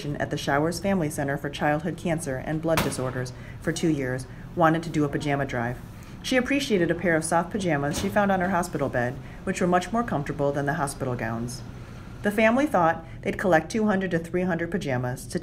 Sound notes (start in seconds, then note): none